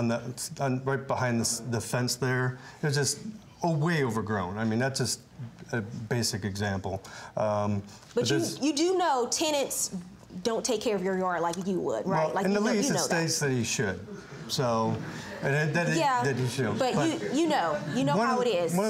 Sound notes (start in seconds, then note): 14.2 audience murmuring